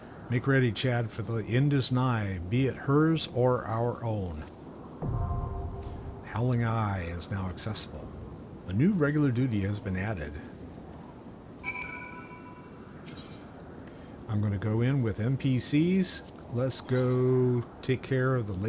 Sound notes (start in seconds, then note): 5.1 air whooshing; 11.6 bell ringing